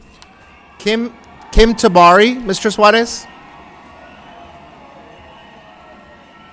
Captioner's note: loud cheering